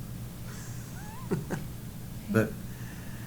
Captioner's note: laughs